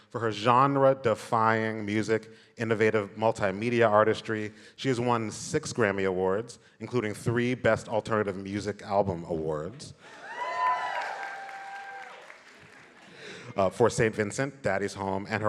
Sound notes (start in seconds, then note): 10.1 audience applauding and cheering